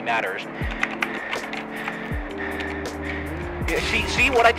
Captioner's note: The sound of sweat and cheeto dust being plastered on the keyboard